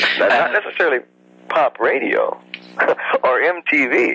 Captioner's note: laughs